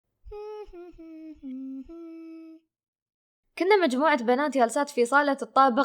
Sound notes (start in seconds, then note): 0.2 humming